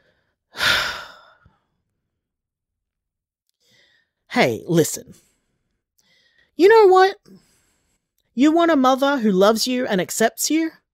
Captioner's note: sigh